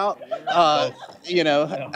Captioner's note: laughter